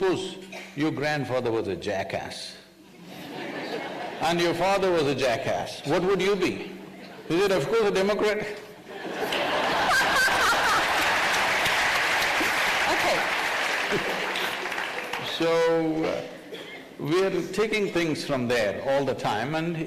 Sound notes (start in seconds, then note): 3.0 laughter; 8.9 laughter/Applause